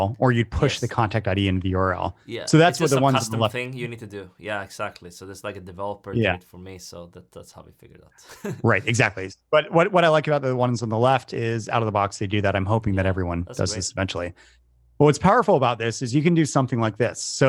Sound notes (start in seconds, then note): 8.2 laughs